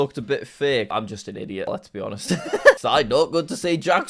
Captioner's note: laughs